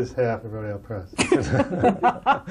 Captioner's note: laughter